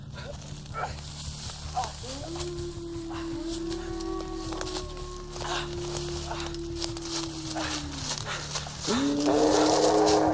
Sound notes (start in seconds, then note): 4.6 howling; 8.8 roar